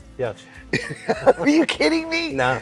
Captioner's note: laughs